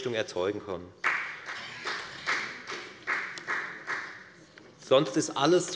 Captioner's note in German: Beifall bei der FDP